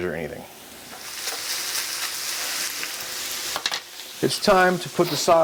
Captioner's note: meat sizzling